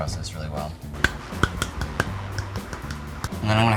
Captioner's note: clapping